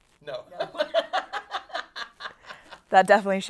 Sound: laughs

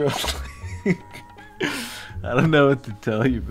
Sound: laughing at himself, thinking he's hilarious

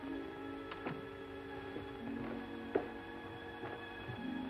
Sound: sound of door shutting

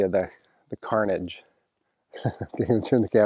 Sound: chuckles

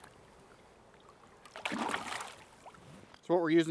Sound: fish splashing

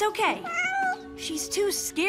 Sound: meowing

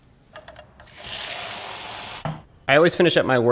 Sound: water rushing

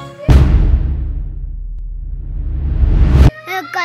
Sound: bang sound effect; backward bang sound effect

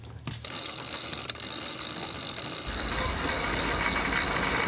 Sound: winch clicking

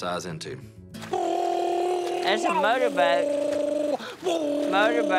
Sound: imitating engine revving

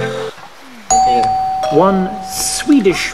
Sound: doorbell rings

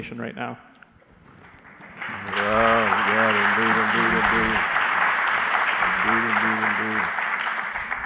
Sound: applause

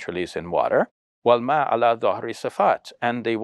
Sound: speaks foreign language

